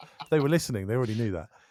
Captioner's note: laughs